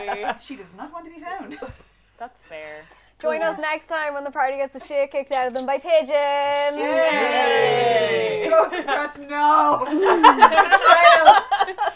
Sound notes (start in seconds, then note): 6.7 cheering; 9.8 laughter